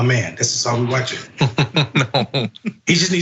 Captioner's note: laugh